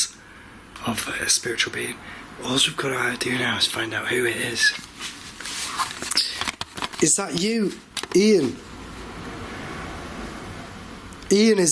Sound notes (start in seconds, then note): none